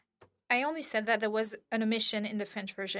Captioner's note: speaking French